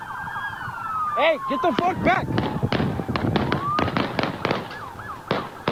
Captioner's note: more gunshots